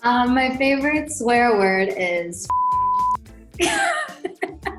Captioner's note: beep; laughing